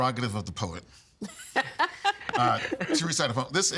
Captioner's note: laughing